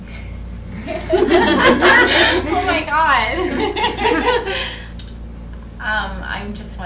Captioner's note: laughter